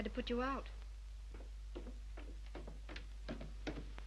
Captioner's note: footsteps approach